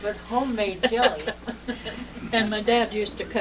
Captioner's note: laughter